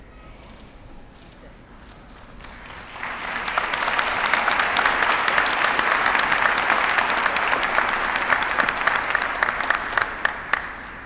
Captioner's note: applause